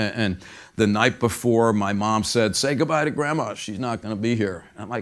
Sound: none

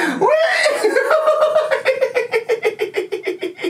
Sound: laughs

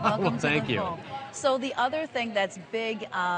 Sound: laughing

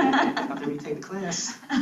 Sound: students laugh

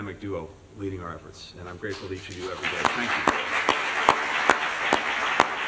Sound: applause

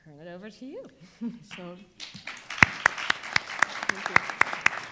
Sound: audience applauding

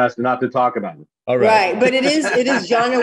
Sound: laughs

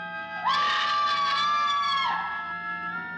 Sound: suspenseful music; screaming; suspenseful music

